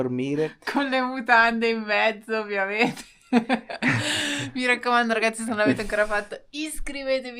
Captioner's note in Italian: risate